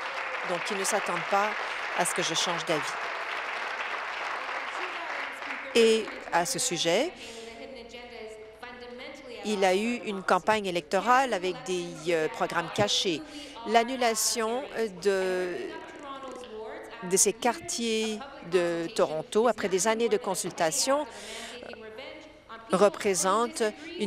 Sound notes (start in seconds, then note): 4.2 applause